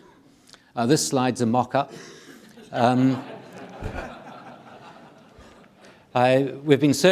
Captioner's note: audience laughing